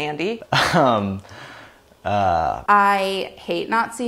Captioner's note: laughs